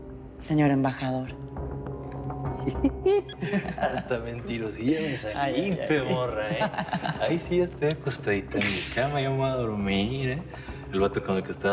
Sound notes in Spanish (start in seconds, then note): 2.6 Risas; 7.5 Risas